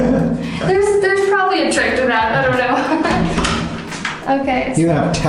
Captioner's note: laughs